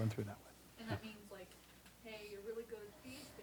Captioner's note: voiceover